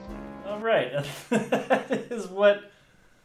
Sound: more chuckling

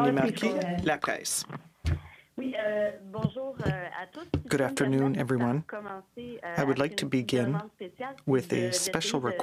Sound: speaking French

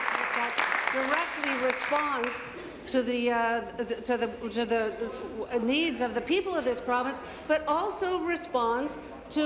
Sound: applause

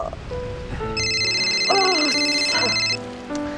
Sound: phone ringing

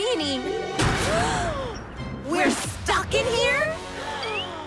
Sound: gasps

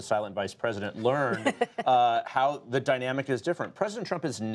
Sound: laughter

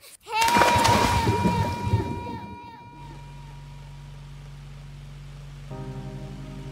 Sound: boy screaming; water splashes; somber music

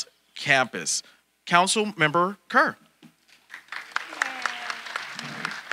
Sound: audience applauding

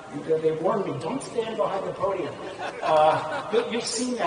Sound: laughter

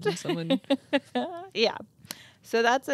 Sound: chuckles

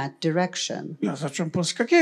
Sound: foreign language

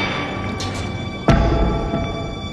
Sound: thunder rolling

